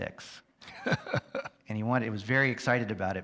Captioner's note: chuckles